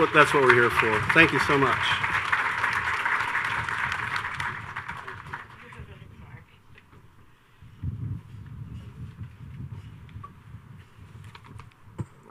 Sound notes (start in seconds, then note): 2.5 audience cheers and applauds